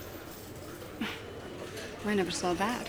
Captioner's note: sighs